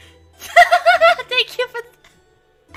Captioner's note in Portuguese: risada